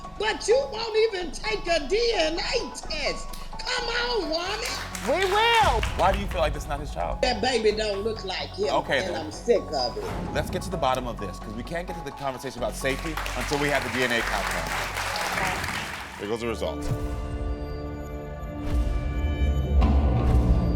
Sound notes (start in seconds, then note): 14.8 audience applauding; 17.8 dramatic music